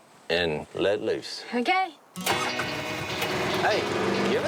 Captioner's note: car starts